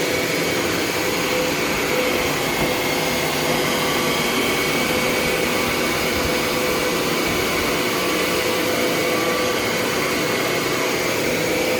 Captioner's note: cleaner running